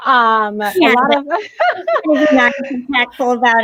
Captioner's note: laughter